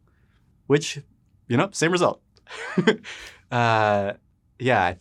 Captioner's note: laughs